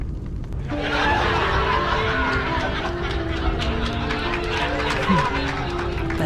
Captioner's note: laugh track